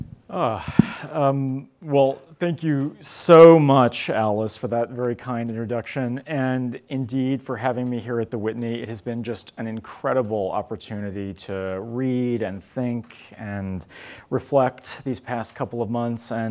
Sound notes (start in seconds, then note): none